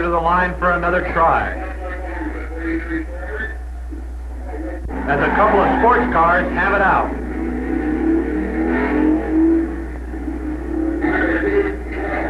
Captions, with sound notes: to the line for another try, (announcer echoing) as a couple of sports cars have it out.